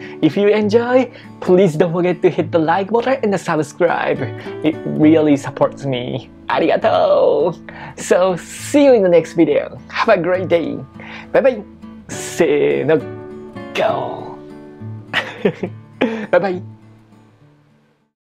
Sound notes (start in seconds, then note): 14.0 lion roar in Japanese